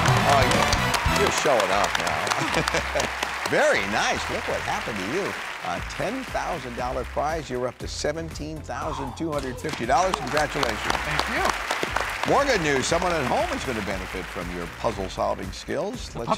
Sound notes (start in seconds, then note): 2.3 Pat Laughs